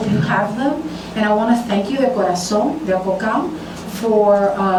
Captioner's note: speaking spanish